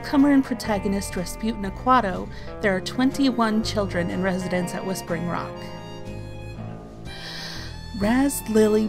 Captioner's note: long inhale